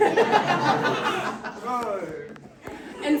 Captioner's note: laughter